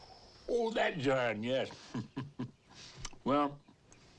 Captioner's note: chuckles